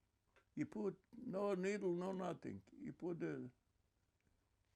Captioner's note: hebrew